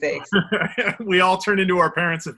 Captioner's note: laughs